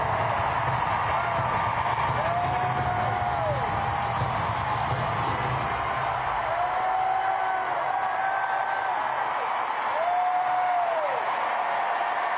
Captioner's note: cheers and applause